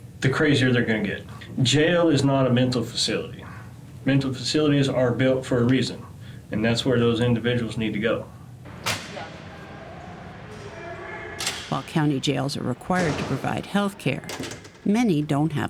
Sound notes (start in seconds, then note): 8.6 men yelling in distance; 8.8 lock clicks open